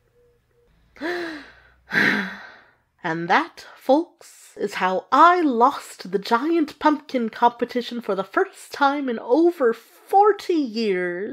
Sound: deep breath

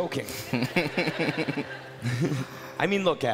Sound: crowd laughing

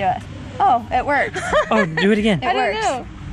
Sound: laughing

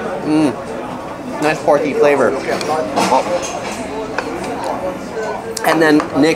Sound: speaks in foreign language

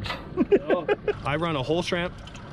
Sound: chuckling

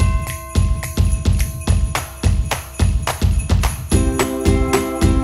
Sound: bells ringing; upbeat music

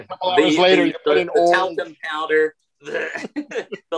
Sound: grunts

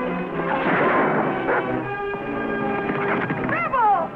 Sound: dog barking

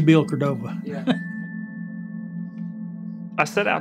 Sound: laughing

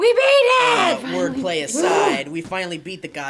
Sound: sighs loudly

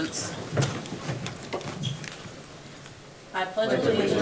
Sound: chairs clatter

